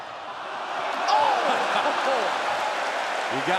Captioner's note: crowd cheering